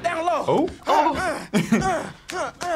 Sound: laughs

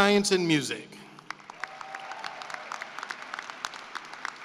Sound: cheering and applause

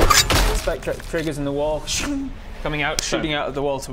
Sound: sching

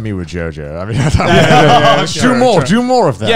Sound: men laughing

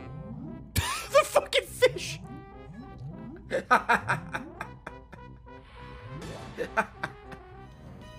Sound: laughs

